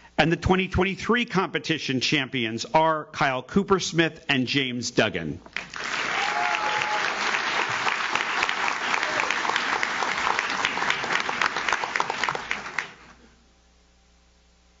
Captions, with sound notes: and the 2023 competition Champions are Kyle Coopersmith and James Dugan. (audience cheers) (audience claps)